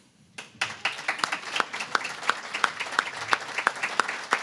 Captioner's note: applause